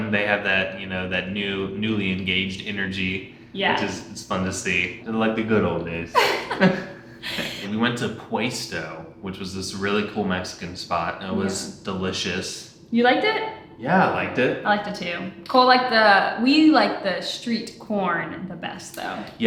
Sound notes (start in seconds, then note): 6.1 laughing